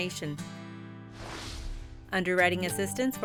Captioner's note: air swooshes